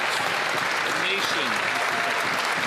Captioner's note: some Applause